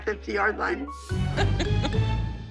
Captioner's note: laughs